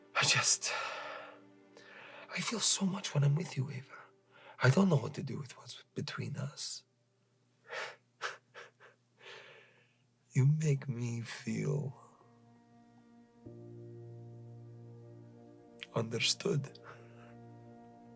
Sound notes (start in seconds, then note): 8.2 Radovan chuckles